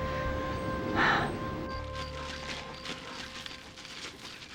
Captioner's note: sighs; rustling